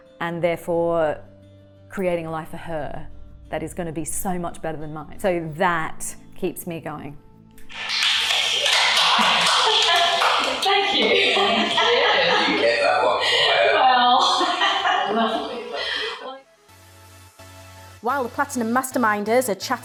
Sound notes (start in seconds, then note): 7.6 clapping; 16.7 upbeat music